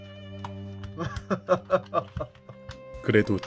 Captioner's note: laughs